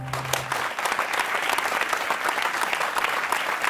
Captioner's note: applause